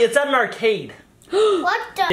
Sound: gasps

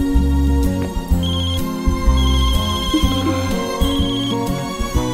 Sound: phone ringing

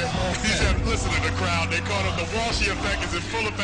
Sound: crowd chanting

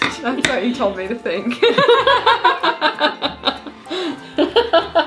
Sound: both laughing

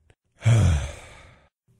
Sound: sigh

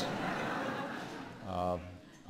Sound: laughter

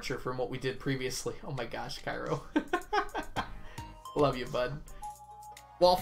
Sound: laughs

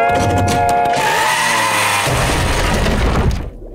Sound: screeching, thudding

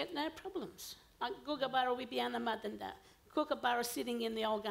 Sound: foreign language

